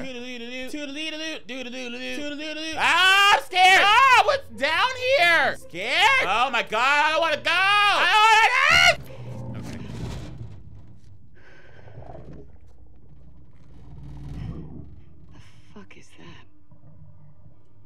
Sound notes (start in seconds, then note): 8.6 zombie growling; 12.0 eerie music